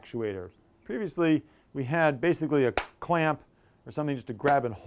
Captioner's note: clap